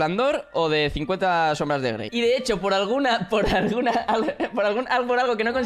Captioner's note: laughs